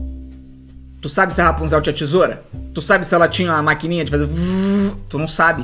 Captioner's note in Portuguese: Vvvvv